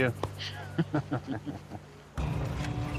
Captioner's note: laugh